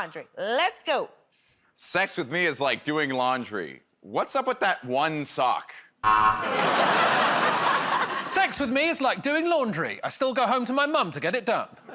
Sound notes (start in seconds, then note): 6.0 buzzer